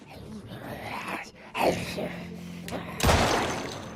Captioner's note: zombie groaning